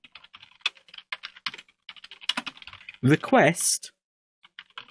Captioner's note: keyboard typing